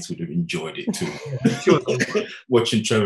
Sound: laughing

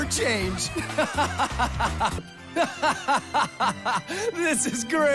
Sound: laughing

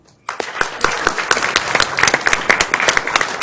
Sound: applause

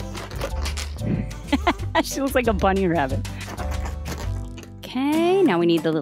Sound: laughs

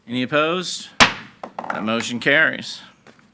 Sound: gavel bangs

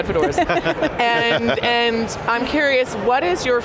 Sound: panel members laugh

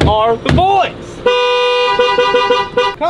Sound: car horn honks

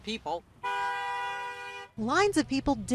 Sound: car horn honks

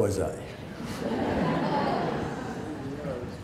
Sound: laughing

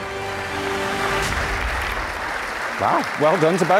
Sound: audience applauding

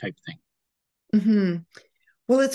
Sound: humming in agreement

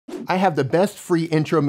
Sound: swishing

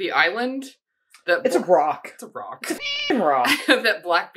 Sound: meow

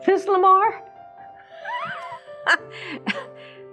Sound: chuckles

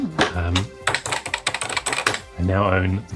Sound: keypad tapping

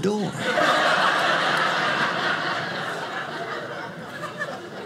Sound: audience laughing

